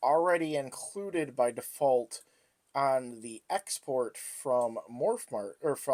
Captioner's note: slurred words